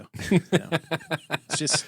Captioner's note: laughing